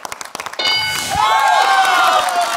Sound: bell dings; cheering/applause

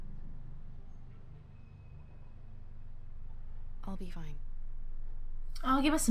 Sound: none

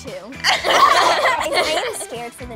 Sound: all laughing

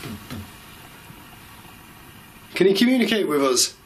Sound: knocks

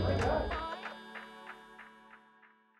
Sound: laughs

